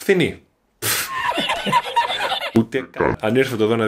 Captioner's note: meme laugh